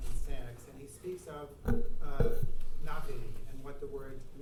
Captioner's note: speaking in foreign language